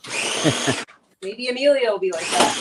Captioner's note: blender whirling